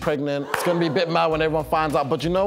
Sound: gasping

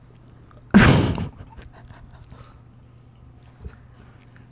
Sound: giggle

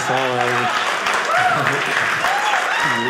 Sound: audience applauding

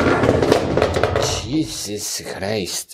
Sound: drawer face crashing

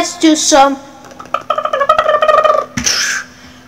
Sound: helicopter arrives

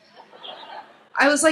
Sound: laughs

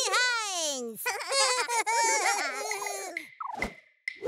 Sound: giggling

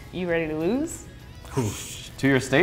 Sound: exhales

